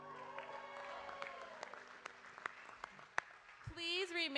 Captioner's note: audience cheering